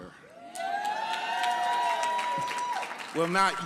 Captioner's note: audience cheering and clapping